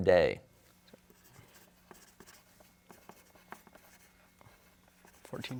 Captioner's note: pencils writing